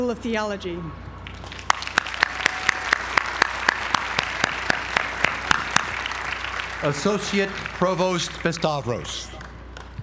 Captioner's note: applause